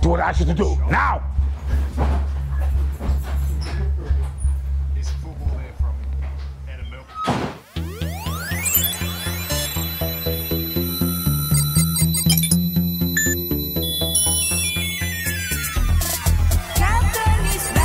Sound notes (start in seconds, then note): 7.2 door slamming; 7.5 electronic beeping